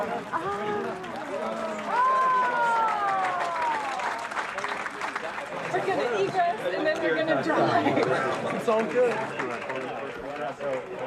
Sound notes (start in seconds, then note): 4.2 crowd cheering